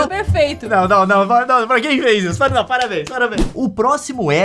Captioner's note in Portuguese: palmas